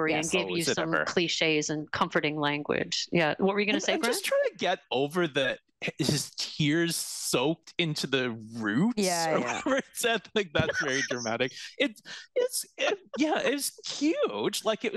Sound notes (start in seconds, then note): 10.3 laughs